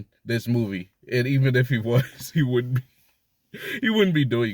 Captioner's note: laughs